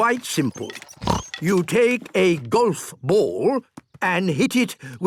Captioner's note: snort